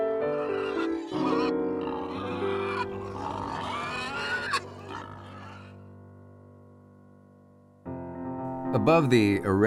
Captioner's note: pig squeals